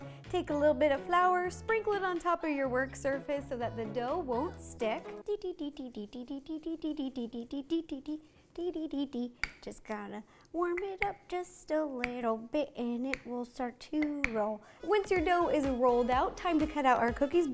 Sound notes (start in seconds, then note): 5.2 singsong voice